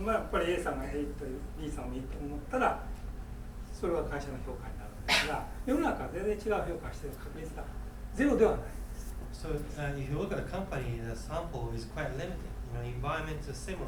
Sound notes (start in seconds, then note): 0.0 speaking in foreign language; 5.0 coughing